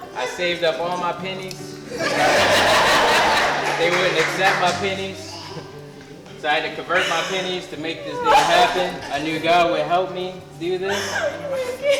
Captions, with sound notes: I saved up all my pennies. (crowd laughs) They wouldn't accept my pennies. So I had to convert my pennies to make this happen. I knew a guy who would help me do this.